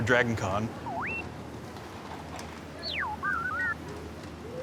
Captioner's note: beeping